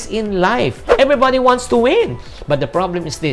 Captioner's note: swoosh